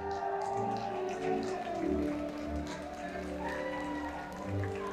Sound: audience cheering and clapping

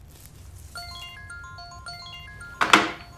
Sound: mobile ringing

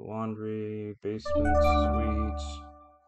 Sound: computer chimes

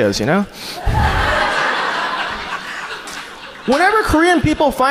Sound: audience laughs

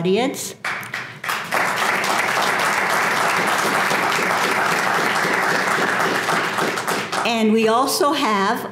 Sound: applause

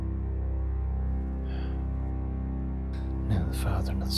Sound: exhales loudly

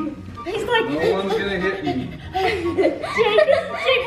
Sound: panting

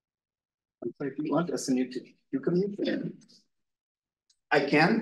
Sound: audio distorting

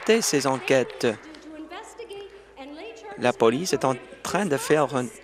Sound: some Applause

